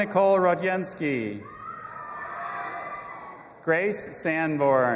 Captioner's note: audience applauding and cheering